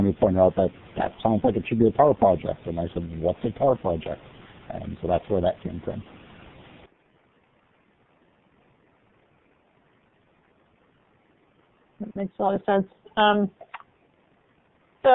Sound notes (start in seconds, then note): 6.3 silence